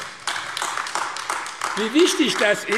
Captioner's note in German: Beifall AfD